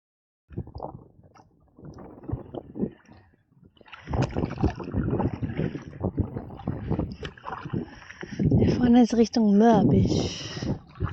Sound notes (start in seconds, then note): 3.9 wind & paddling